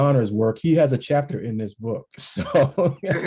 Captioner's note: laughs